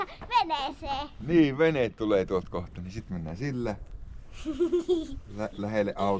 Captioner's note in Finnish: naurua